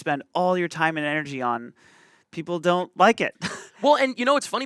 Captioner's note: chuckles